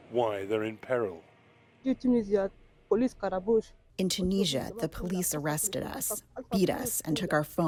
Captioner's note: through translator